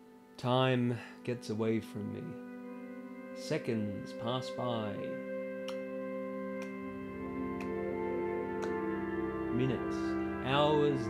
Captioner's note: click